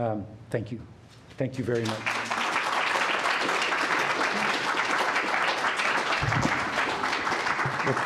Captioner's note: applause